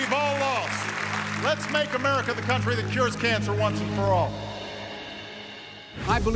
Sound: applause

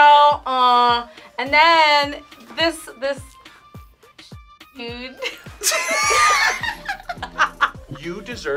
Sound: both laugh

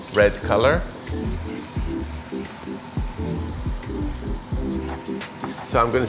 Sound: veggies sizzling; upbeat music

